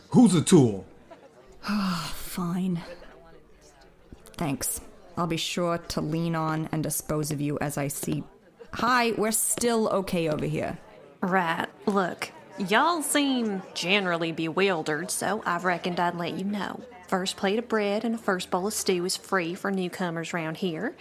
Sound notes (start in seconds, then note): 1.6 sigh